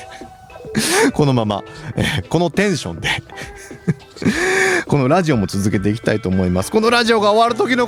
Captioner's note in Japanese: 笑い